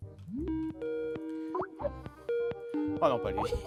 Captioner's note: Skype ringtone